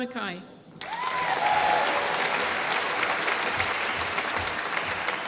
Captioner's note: applause